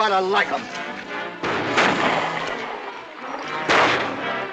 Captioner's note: gunshots